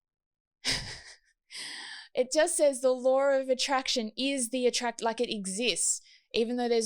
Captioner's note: laughs